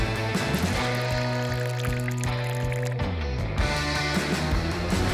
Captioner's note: water dribbles